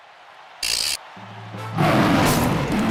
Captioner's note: loud roar